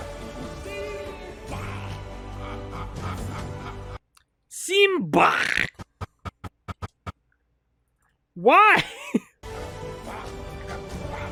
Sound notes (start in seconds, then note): 1.7 laughs; 8.7 laughs a bit